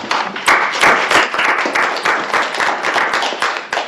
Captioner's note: crowd applauds